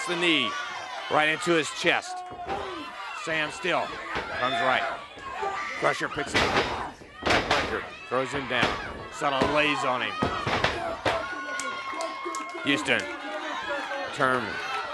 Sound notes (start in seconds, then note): 5.3 crowd cheering; 7.9 crowd cheering; 11.5 crowd cheering